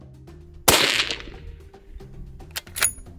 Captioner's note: shot